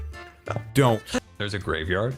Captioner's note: laughs